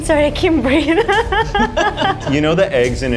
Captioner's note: laughs